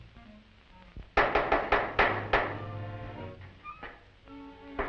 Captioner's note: door creaks